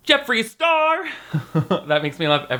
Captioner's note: laughing